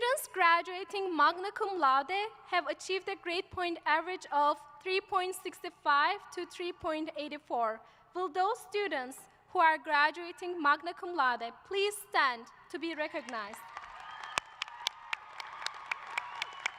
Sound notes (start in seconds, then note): 13.1 applause